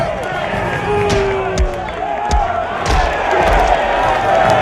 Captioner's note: crowd cheering